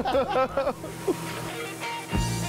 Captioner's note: laughter